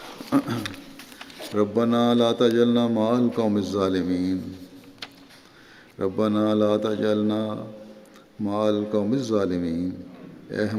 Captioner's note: Arabic